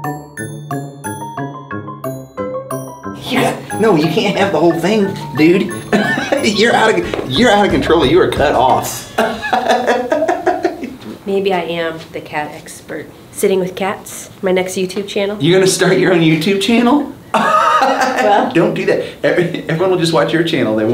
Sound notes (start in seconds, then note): 0.0 playful music continues; 8.9 laughs; 17.3 laughs